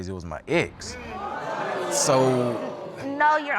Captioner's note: audience exclaiming